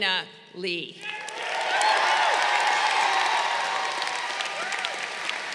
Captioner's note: crowd cheering